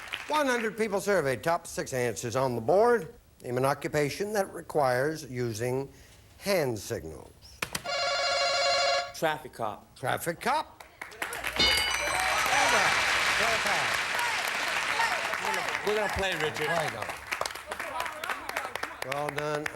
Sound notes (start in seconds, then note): 12.9 audience applauding